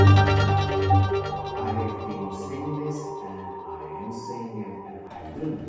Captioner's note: faint studio transmission